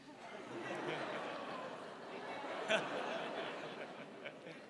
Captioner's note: crowd laughs